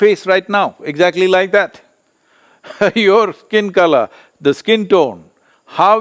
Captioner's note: laughs